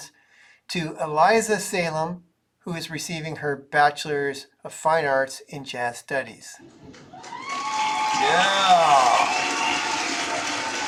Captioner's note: cheering sounds